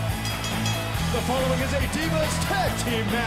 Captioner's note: bell ringing